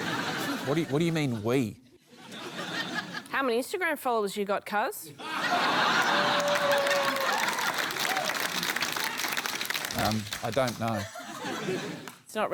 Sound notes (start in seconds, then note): 2.1 laughter; 5.2 laughter; 7.1 cheering, applause